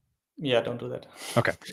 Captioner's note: chuckles